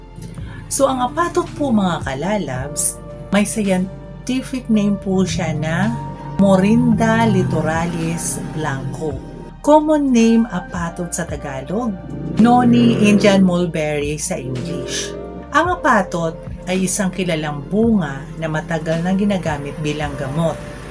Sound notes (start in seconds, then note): 11.1 Tagalog